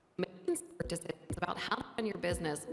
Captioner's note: audio distorts 30.17; audio distorts 30.18